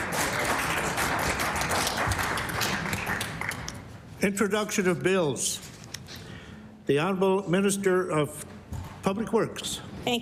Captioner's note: applause